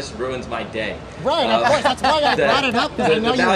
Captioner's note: all laugh